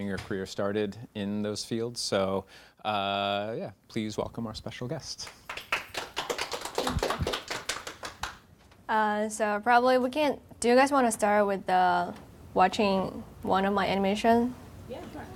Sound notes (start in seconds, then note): 5.2 applauding